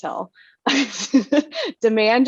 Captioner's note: laughing